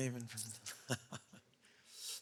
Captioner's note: laughing